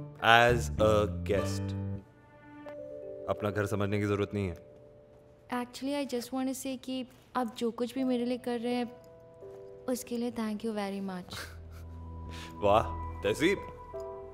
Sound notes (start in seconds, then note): 11.3 Raghu chuckles